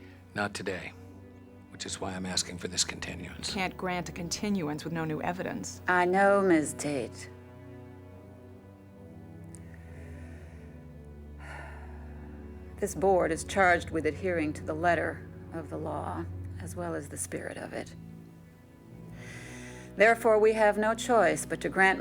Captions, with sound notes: Not today. Which is why I'm asking for this continuance. You can't grant a continuance with no new evidence. I know, Ms. Tate. (sighs) This board is charged with adhering to the letter of the law, as well as the spirit of it. Therefore, we have no choice